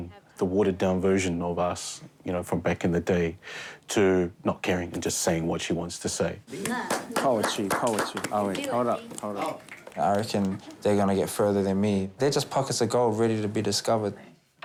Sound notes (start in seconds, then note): 6.5 clapping hands